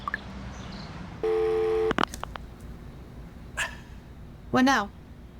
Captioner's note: phone beeping